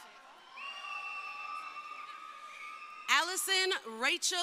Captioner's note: crowd cheering